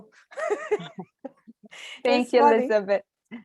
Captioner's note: both laughing